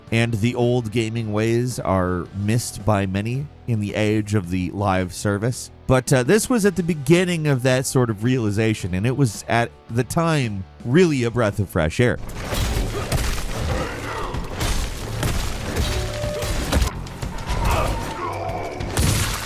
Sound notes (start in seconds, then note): 13.0 sword whooshing